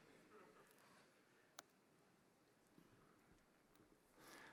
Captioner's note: laughter